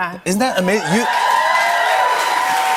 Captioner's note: cheers and applause